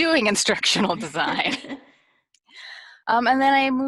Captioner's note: laughs